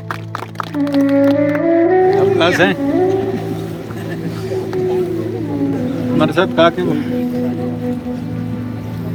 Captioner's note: speaks in foreign language – not transcribed; applause